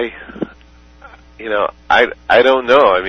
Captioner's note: laughter